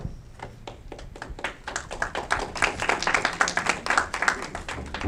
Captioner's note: audience clapping